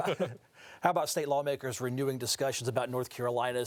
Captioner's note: laughing